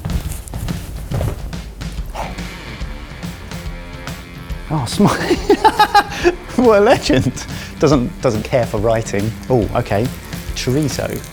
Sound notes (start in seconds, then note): 5.4 laughs